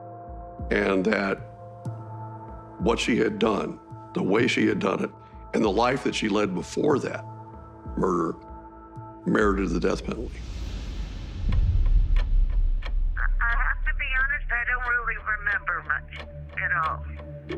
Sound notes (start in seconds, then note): 11.8 clock ticking; 13.0 over recording